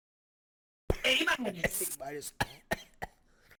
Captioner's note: coughs